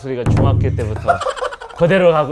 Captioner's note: laughter